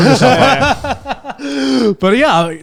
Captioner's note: laughs